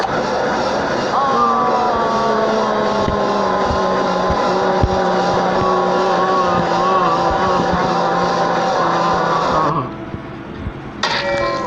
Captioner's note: shouting Continues; slam